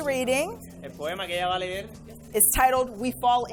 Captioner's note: interpreter speaking in foreign language